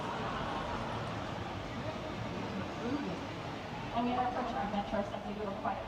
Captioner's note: people laughing